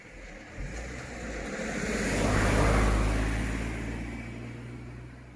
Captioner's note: vehicle sounds